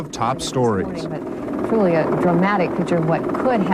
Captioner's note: helicopter whirring